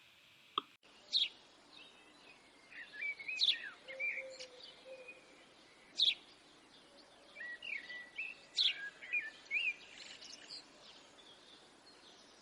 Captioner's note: birds chirping